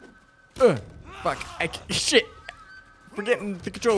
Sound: grunts

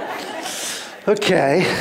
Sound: laughter

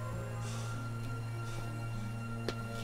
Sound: footsteps

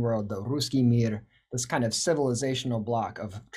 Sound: speaking in Russian

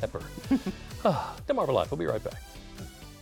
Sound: laughter

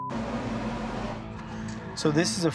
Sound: beep

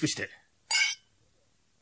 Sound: SFX: glasses clinking

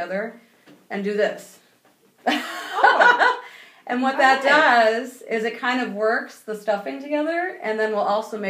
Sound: laughing

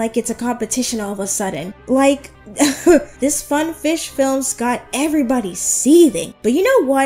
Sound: laughs

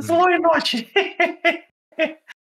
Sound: laughter

